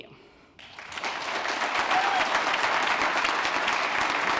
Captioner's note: applause